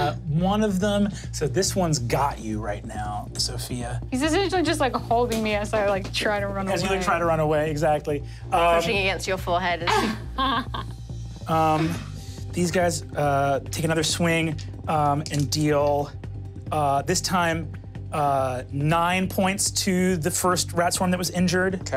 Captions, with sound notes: - One of them, so this one's got you right now, Sofia. - He's just like holding me as I try to run away. - As you try to run away, exactly. - Pushing against your forehead. (laughs) - These guys take another swing and deal this time nine points to the first rat swarm that was injured.